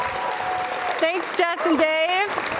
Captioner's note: cheers and Applause